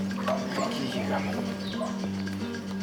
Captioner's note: speaks Spanish